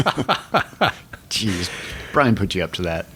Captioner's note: chuckle